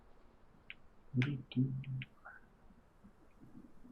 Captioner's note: hums